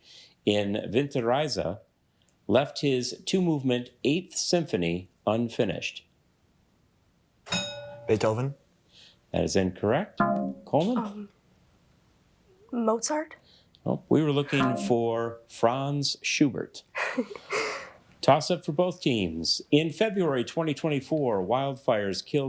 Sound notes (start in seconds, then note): 7.5 bell rings; 16.9 chuckles